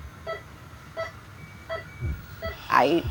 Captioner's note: machine beeping